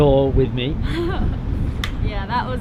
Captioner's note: laughs